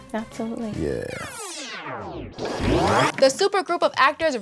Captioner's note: tape rewinding